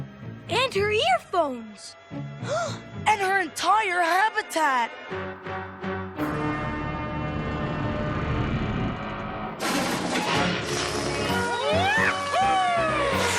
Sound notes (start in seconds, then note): 2.4 gasps; 9.6 crash